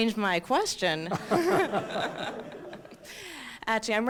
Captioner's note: laughter